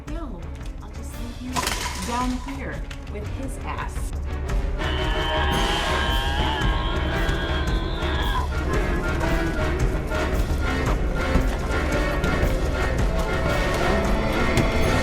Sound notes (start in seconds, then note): 4.9 person groaning; 4.9 suspenseful music